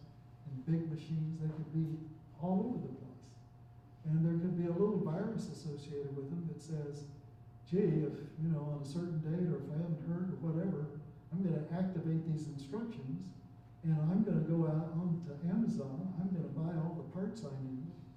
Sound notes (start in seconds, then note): none